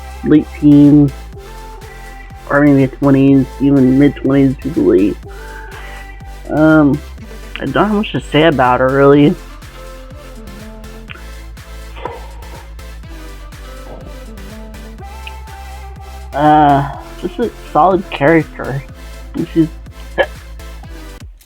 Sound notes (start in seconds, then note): 12.0 yawn and mouth noises; 15.9 mouth noises and hiccup